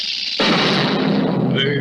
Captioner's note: crash!